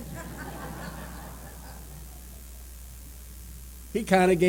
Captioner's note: laughter